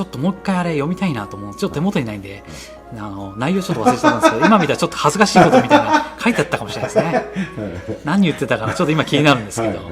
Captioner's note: laughs